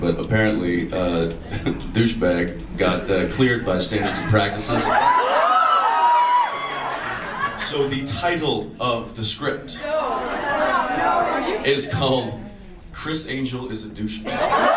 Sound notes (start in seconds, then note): 1.4 laughs; 4.7 audience cheers